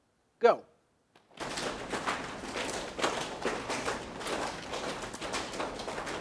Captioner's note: audience slapping legs